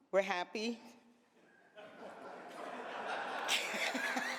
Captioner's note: laughter